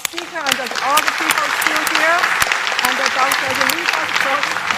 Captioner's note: applause